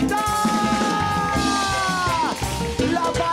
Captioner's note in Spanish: Aplausos